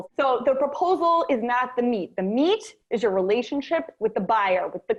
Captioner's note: none